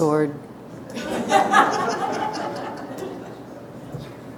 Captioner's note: audience laughter